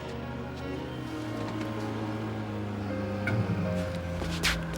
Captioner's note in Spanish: Motor funcionando